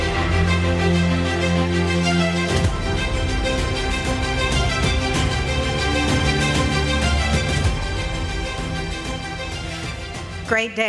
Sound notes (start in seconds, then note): 2.2 applause